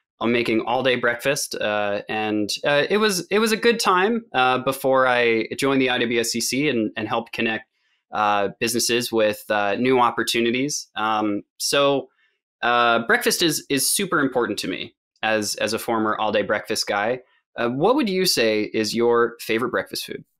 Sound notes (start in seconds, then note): none